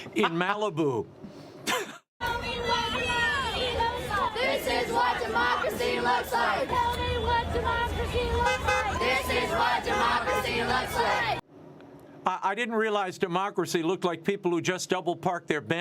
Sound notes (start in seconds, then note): 8.1 chanting tell me what democracy looks